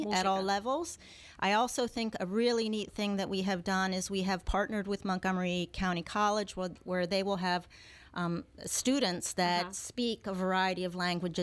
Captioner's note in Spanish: Hablando ingl\s